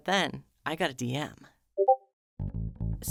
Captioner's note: Discord Message Sound